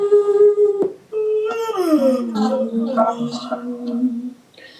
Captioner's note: female voice 'Hmmm', going down and up; loud yawning sounds